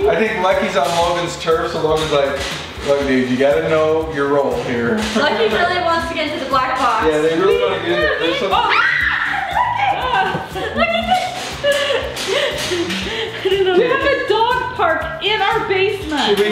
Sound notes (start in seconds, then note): 10.3 laughs